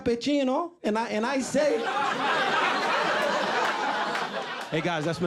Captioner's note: audience laughing